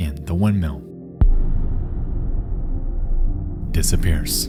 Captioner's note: booming sound